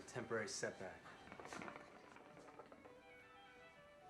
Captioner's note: hookah bubbles